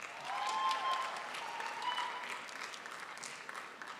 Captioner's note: crowd applauds